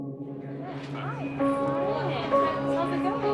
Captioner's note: indistinct chatter